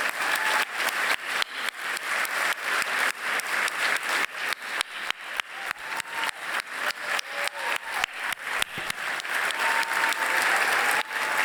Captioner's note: applause